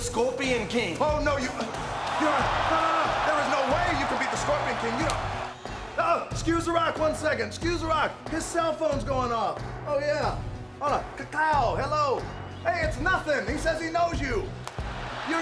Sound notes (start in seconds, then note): 2.3 crowd cheering